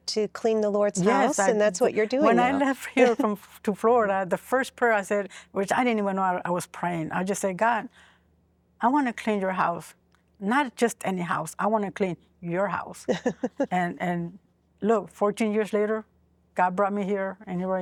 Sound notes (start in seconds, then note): 13.0 giggling